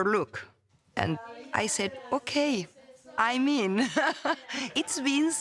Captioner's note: laughs